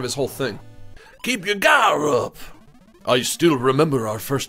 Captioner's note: gravely voice; foreign accent